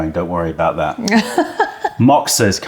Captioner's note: laughter